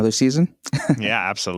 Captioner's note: laughs